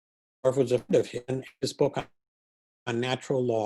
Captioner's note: distortion